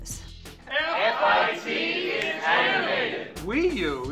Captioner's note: shouting